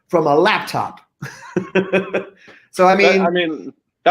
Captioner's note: group laughing